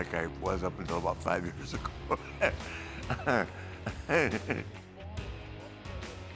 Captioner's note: laugh